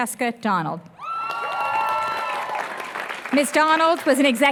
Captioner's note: applause